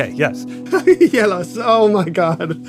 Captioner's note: laughs